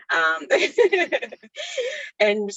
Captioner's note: laughs